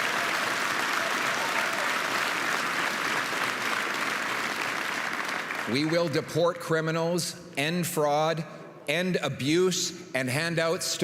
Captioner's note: applause